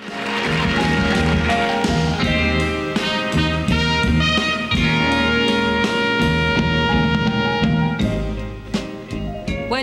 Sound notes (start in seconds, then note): 0.0 audience applause; 0.0 bright music